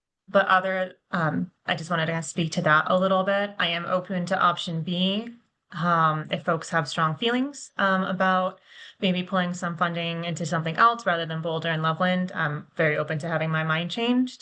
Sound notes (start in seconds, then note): none